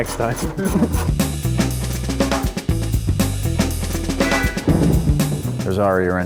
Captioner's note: crew laughing; upbeat music